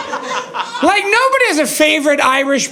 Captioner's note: audience laughing